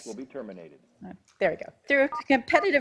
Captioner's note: softly beeping